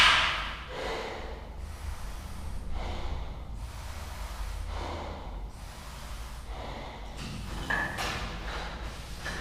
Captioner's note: breathes deeply